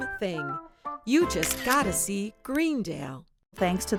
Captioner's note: camera snapping photo